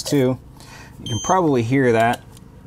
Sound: device beeping

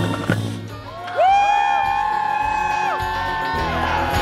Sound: crowd cheering

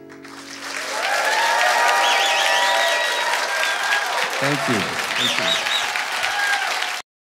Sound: applause

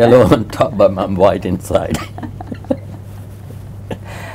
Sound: laughs

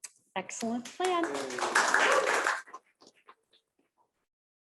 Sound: applause

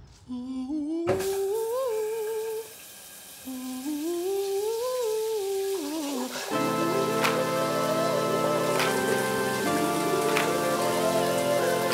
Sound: showers sounds

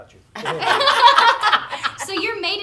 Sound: group laughing

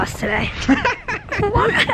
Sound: laughing

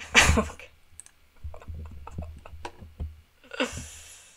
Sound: laughing; laughing more

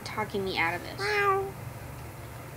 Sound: meow

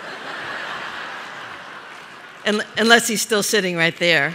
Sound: laughter

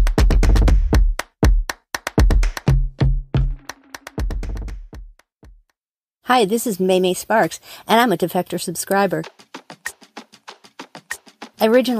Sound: gasps

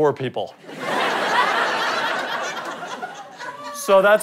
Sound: audience laughter

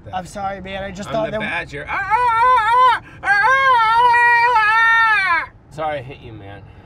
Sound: badger noises

